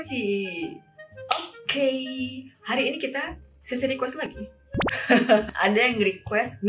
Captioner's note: laughs